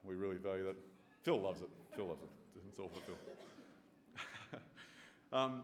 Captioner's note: chuckles